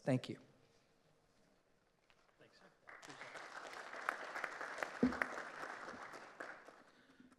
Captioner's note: applause